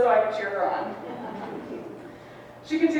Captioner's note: audience laughs